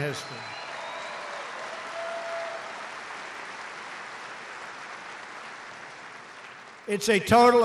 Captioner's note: applause